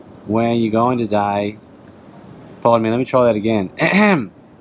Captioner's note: throat clears